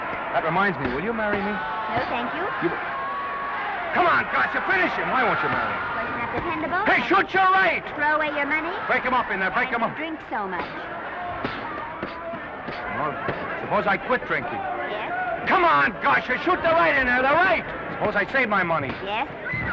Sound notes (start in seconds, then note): 11.2 crowd cheering; 11.2 punches thudding